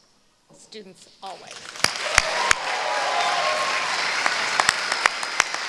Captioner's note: applause